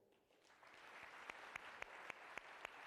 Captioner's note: applause